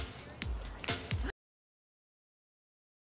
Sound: sighs

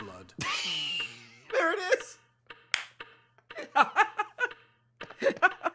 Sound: laughs

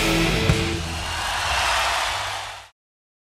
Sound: audience cheering and applauding

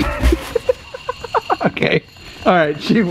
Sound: laughs

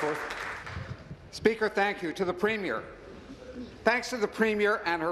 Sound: applause

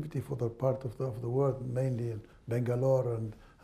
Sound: none

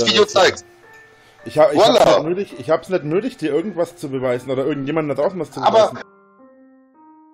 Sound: French

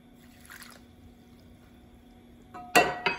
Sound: pouring

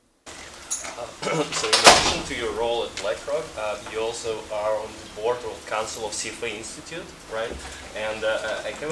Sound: cough

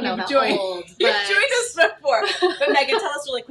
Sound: laughs

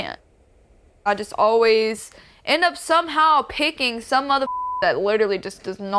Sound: beep

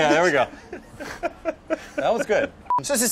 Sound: laughter

